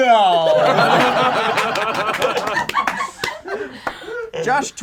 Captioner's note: group laughs